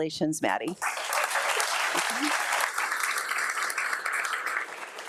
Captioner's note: audience applauding